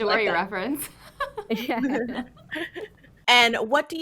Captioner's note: group chuckles